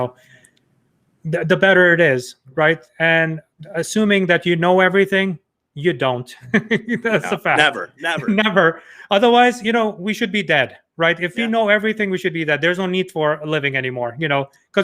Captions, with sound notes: the better it is. And assuming that you know everything, you don't. (laughing) That's a fact. - No, never. - Never. Otherwise we should be dead. If you know everything, we should be dead. There's no need for a living anymore.